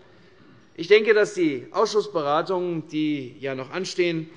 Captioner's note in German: none